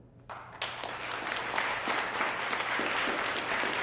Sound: applause

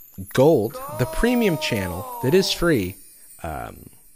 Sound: disembodied voice

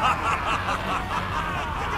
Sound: evil laughter

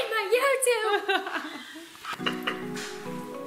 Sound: laughs; upbeat music

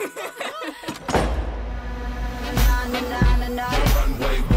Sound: laughter; door opens

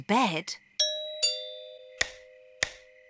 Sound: doorbell chimes

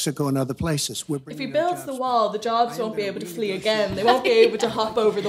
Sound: laughs

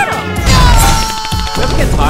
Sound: spam clapping sound

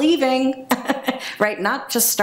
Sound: chuckles

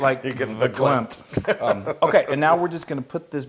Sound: laugh

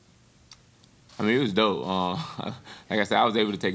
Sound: chuckles

